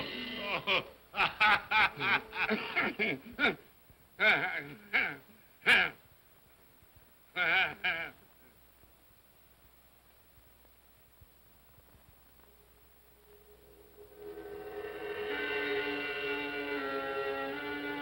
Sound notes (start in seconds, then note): 1.1 spirit laughs; 2.3 Scrooge grunts; 7.4 Scrooge laughs; 13.2 ominous music